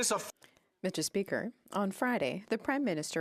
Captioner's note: speaking French